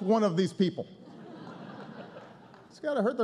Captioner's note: laughter